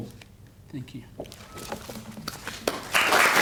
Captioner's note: applause